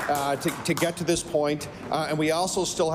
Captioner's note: applause